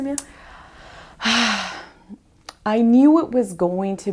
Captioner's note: sighs